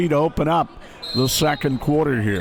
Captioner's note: whistle blows